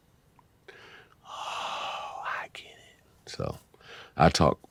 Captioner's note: whispering